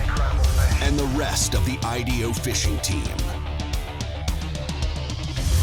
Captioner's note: voiceover